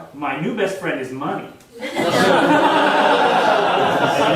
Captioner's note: audience laughing